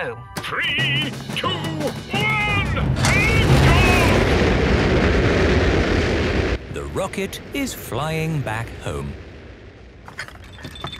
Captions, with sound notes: - Three, two, one, lift off! - (rockets blasting) - The rocket is flying back home.